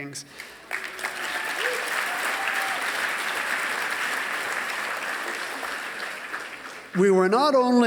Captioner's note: applause